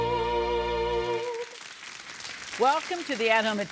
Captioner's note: audience applauds